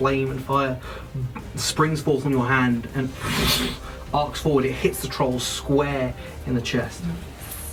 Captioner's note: fire swooshing sound